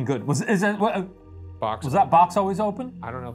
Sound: stammering

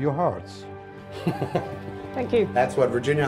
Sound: laughs

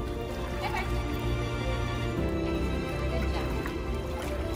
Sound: background music; water splashing sounds; background music; water splashing sounds; background music; water splashing sounds

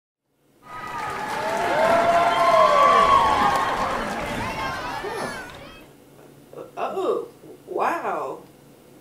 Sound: crowd cheering

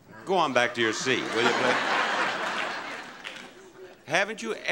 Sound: audience laughing

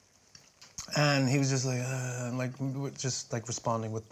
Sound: groans

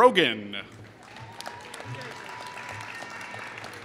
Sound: applause

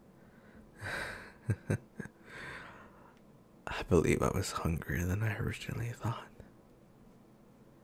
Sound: with a light laugh

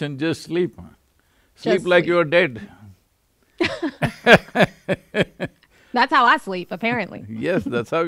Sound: both laugh

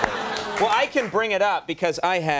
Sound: Conan chortling; audience cringes

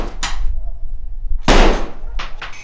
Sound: gunshot; gunshot

